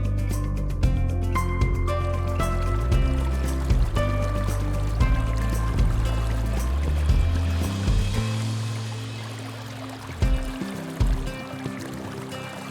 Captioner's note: tranquil music continues; water bubbling